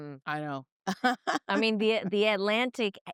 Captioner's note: laughing